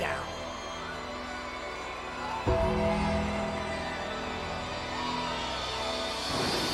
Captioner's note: upbeat music continues; crowd cheering